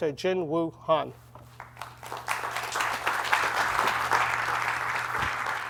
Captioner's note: applause